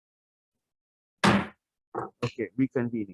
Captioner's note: gavel thuds